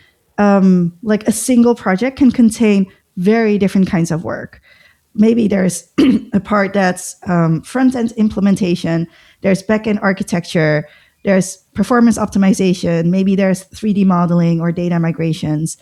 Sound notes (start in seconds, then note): 6.0 throatclearing